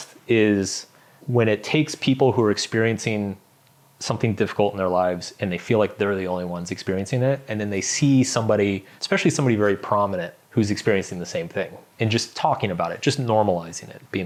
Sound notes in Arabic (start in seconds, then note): none